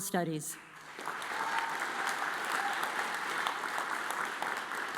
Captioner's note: audience applauds